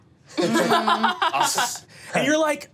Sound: laughing

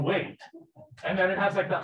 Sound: people laughing

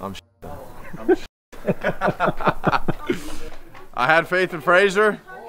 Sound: laughter

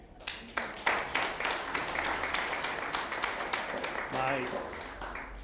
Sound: audience applauding

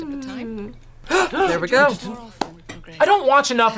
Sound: both gasp

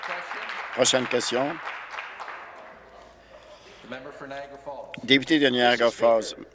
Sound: applause

